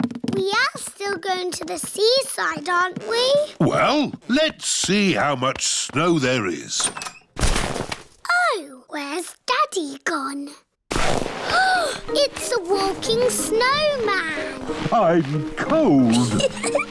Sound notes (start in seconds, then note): 11.5 gasps